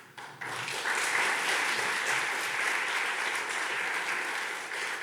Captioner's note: audience clapping